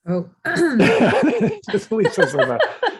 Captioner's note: laughs